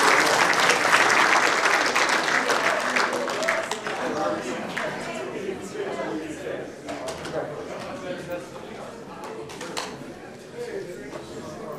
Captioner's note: applause